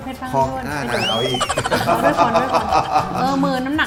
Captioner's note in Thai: หัวเราะ